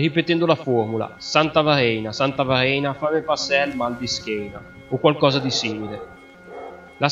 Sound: in local dialect

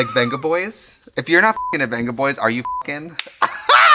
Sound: Katya laughs; beep; Trixie laughs

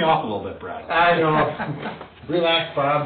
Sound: laughing

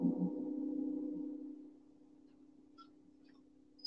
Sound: plays gong

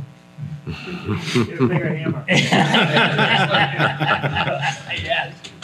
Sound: everyone laughs

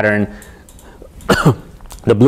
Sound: cough

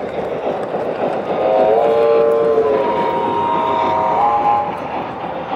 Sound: multi-tone horn

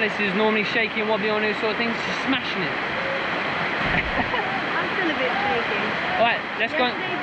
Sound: laughs

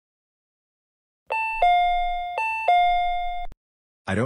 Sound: door chime

